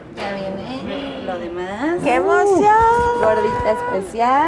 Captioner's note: speaks in Spanish